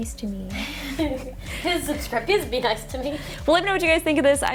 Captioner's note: laughs